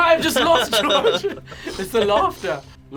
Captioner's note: laughing